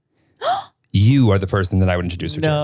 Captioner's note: gasps